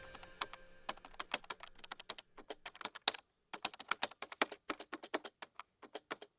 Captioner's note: typing sound